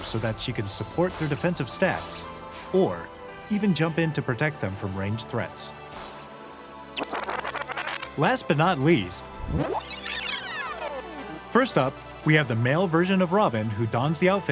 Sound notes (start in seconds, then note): 6.9 fast forward sound; 9.3 rewind sound